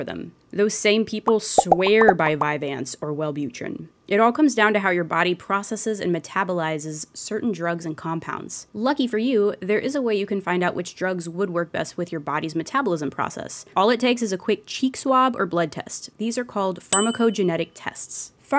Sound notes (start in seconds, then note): none